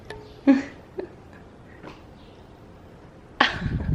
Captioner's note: laughs